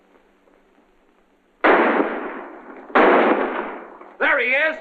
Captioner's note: gunshots